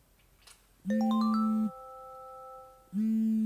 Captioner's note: melodic alarm